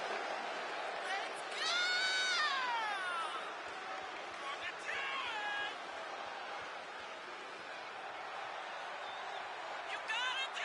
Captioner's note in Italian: applauso